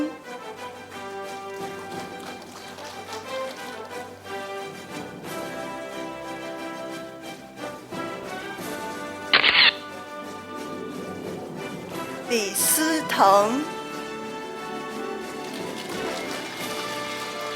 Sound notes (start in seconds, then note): 0.0 audience applauding; 4.8 orchestral music; 9.3 camera shatters; 10.3 orchestral music; 14.5 orchestral music